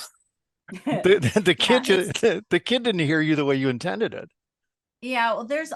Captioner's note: laugh